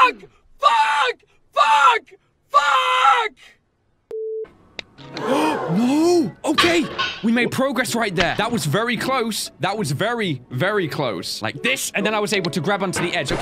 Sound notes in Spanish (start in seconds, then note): 5.1 La audiencia jadea con él; 5.1 jadeó